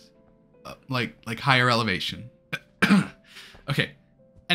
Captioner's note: cough